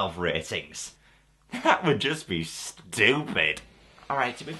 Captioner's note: sarcastically